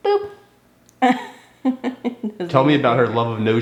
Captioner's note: mother laughing